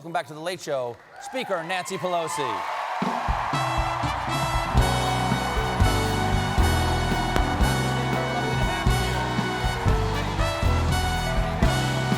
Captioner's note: cheers and applause